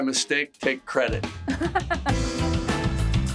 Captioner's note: Greta laughs; upbeat music